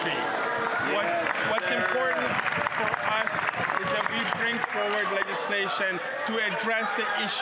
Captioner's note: some Applause